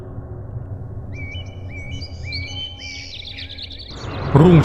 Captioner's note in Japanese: 朝の鳥の鳴き声